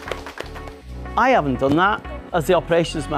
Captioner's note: clapping